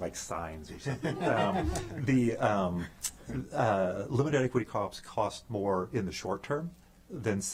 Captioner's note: laughter